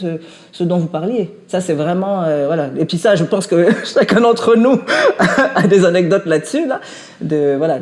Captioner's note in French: rires